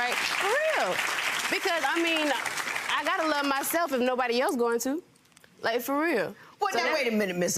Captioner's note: audience clapping